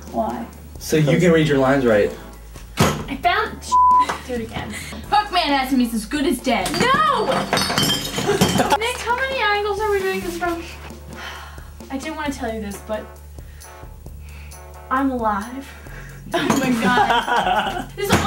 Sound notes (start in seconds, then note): 6.6 bottles clanking; 16.3 laughing